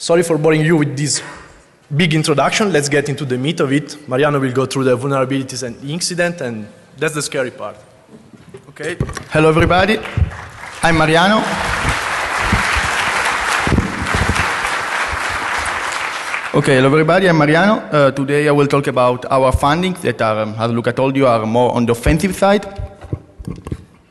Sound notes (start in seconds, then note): 9.6 applause